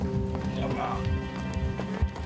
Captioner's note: groans